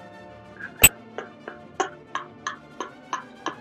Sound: laughing

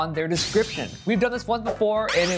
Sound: sword whooshing

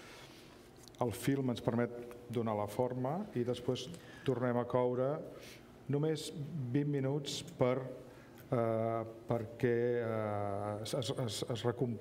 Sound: speaking catalan

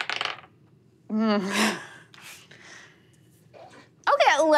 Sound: dice rolling; groans

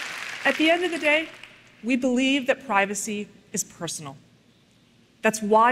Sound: applause

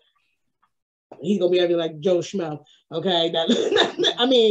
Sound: laughs

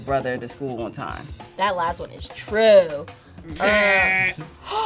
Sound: laughs; imitates buzzer; gasps

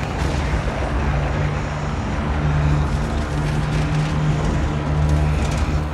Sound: engine Humming

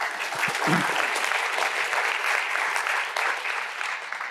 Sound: audience applauding

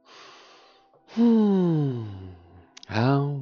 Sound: gentle relaxed sigh

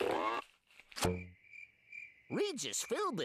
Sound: crickets chirping

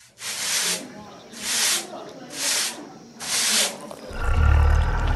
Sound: broom Sweeping

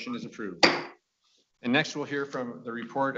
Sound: gavel banging

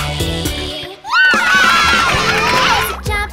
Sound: cheering

